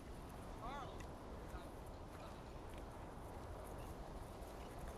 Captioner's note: background chatter